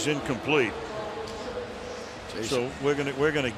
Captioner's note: pa announcement